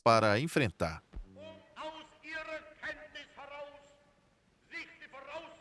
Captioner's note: Hitler shouting in German